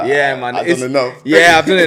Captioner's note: laughs